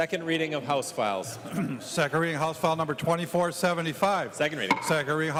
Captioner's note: gavel